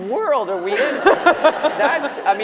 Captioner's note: laughter